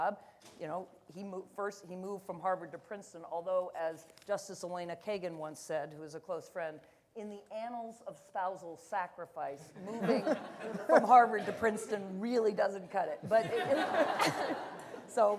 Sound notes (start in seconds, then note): 9.9 audience laughter; 13.2 laughter